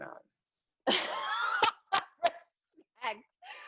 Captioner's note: laughs